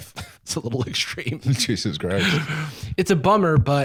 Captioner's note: laughing